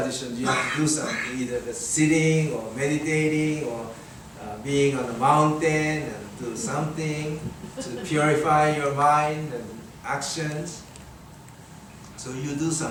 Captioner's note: audience chuckles